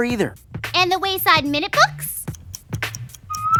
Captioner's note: clock ticks and dings